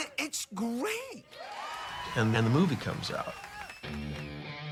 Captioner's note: audience cheering; rock music